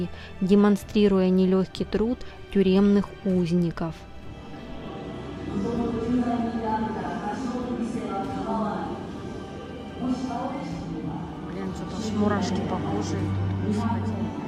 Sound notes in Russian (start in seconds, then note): 4.2 по залу разносится звуки документального фильма